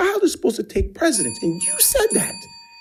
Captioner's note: bell dings